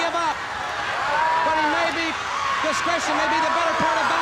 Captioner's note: wrestlers bellowing